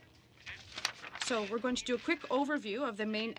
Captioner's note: speaking French